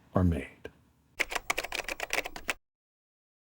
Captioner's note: typing